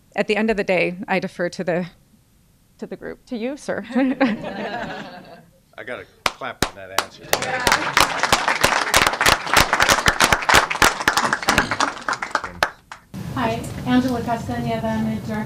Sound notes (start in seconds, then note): 3.8 laughter; 7.9 applause